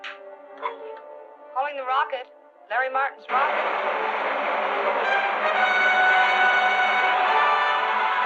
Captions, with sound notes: Calling the rocket, Larry Martin's rocket. [rocket rumbling]